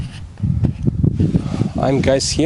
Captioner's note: wind blowing